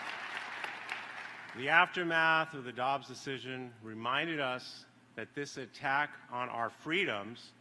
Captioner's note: applause